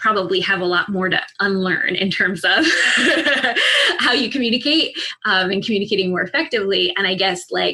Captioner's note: chuckle